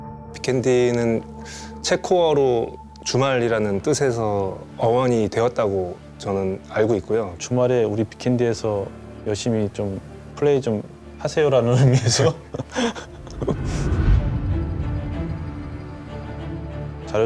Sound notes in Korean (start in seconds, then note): 11.7 웃음